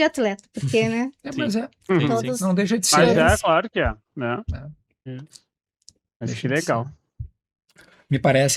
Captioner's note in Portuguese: limpando a garganta